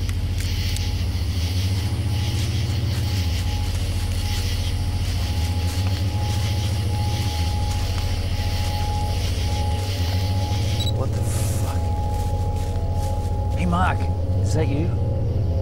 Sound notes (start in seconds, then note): 3.1 footsteps of horses on leaves; 10.3 camera beeps; 11.7 whispering